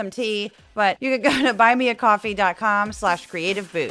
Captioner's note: laugh